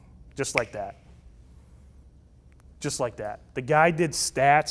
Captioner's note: snaps fingers